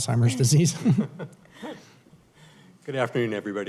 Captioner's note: laughter